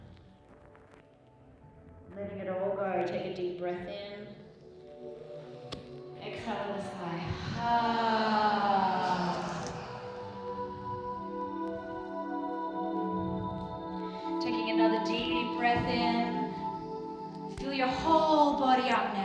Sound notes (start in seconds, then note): 8.9 all sigh